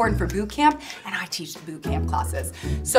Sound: none

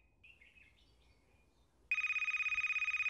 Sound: phone ringing

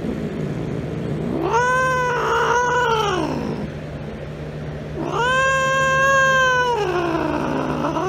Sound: Caprice yowls

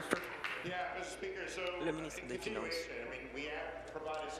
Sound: applause

